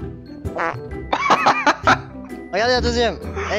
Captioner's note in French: rires